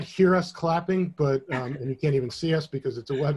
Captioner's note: chuckles